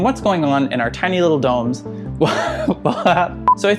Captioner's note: lols